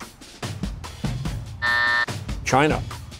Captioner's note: buzzer